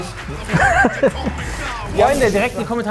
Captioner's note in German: Lachen